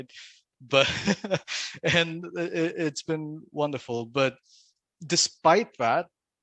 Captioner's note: laughs